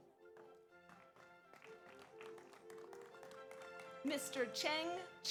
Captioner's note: audience applauds